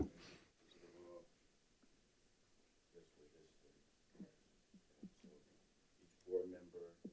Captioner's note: participants chattering off microphone